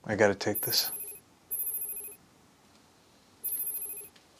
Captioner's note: phone ringing